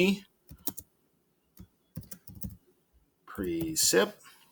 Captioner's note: keyboard clicking